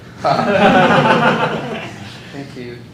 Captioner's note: laughter